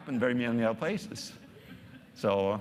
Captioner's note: audience laughing